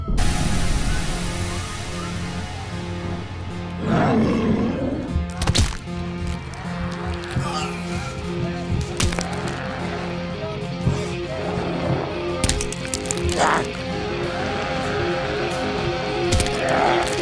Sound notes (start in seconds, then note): 0.1 loud rock music; 3.8 zombies growling; 5.0 bones crunching